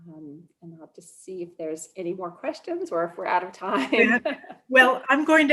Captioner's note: laugh